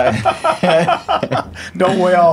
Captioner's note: laughing